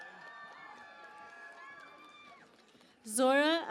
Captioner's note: cheering and Applause